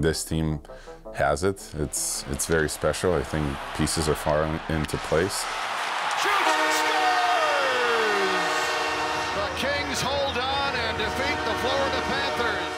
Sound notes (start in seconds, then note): 8.0 crowd cheering; 8.0 horn blowing; 12.5 horn blowing